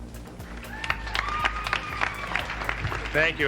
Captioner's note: audience applauding